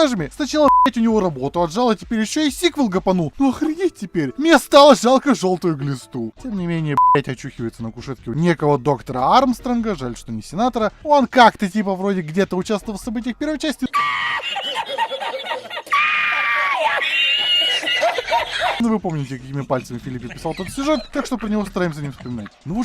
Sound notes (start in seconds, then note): 13.9 Spanish laughter; 15.8 spanish laughter intensifies